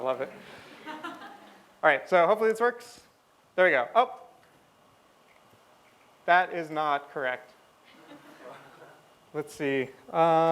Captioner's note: laughter; laughter